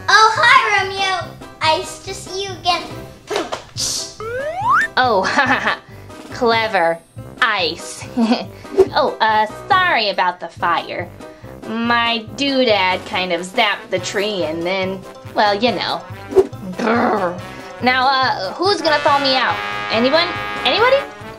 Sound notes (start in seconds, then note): 3.3 comedy punchline rimshot; 6.6 laughs